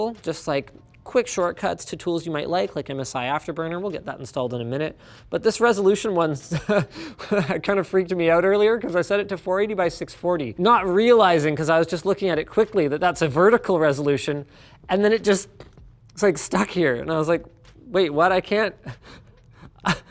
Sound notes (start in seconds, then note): 6.5 laughing